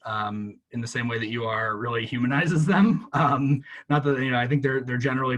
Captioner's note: laughs